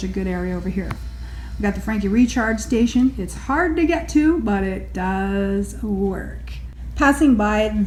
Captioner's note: mechanical charging noise